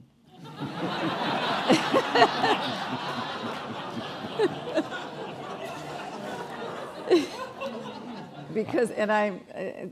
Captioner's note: lauging